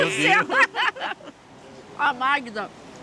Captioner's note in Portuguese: risos